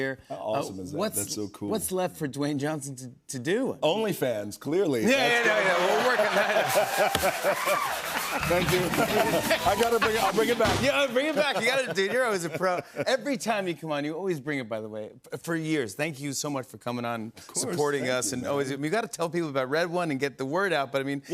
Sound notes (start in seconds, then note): 5.2 laughter, cheers, applause